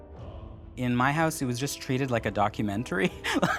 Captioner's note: laughs